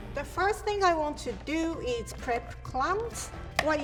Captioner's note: none